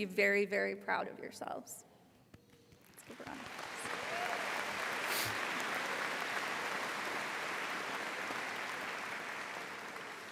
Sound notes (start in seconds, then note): 2.8 applauds; 4.6 audience applauding